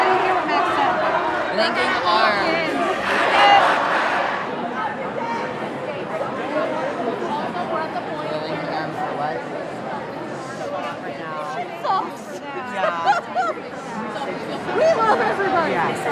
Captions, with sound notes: I didn't hear what Max said. "Linking arms." [ambient crowd] This shit sucks! Yeah! We love everybody!